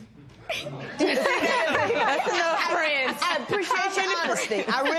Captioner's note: laughter